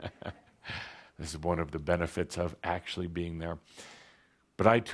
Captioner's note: chuckles